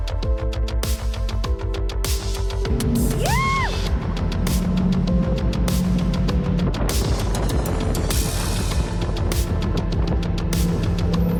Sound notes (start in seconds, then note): 2.7 engine revving